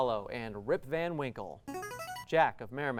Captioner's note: ringing